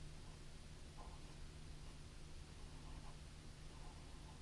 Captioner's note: pen scratching